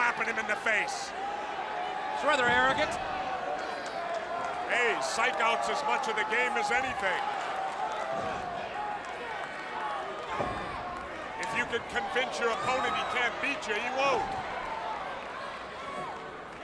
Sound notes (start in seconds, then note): 7.5 crowd chatter